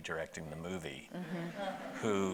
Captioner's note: audience laughing